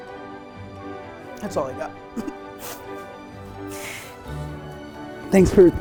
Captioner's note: laughs and sniffles